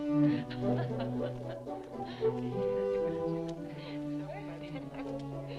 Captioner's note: upbeat music; captives chattering